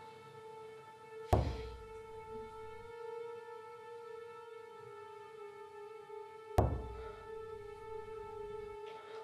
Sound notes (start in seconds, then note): 1.0 knocking